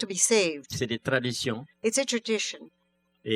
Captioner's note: speaking french